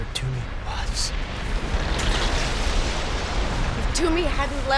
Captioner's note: crashing, Grinding